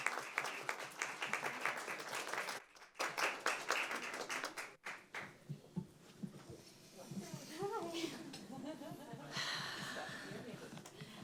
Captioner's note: applause